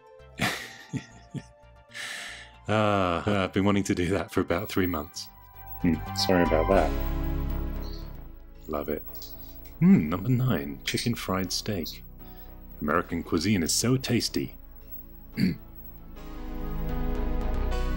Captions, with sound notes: (Laughs) Ahhh, I've been wanting to do that for about three months. Mm, sorry about that! Love it. Mmm, number nine. Chicken-fried steak. American cuisine is so tasty (American Accent) (Clears throat sarcastically)